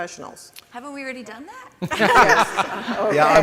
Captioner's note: panelists laugh